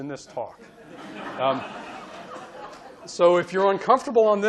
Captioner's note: audience laughing